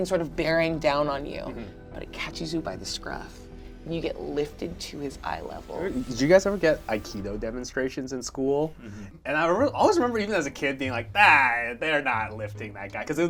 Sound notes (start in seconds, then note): none